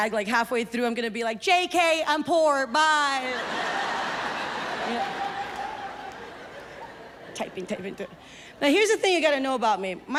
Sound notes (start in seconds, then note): 3.3 audience laughs